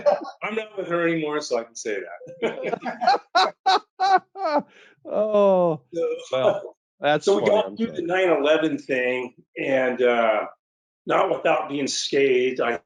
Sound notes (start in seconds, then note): 2.2 laughs